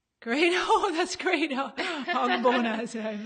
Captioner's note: laughs